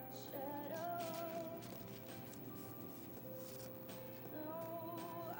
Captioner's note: bills rustling